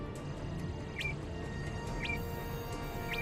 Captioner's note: beeping